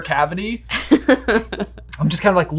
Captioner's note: laughing